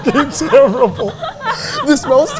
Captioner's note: both laughing